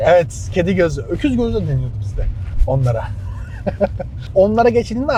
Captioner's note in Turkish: kahkaha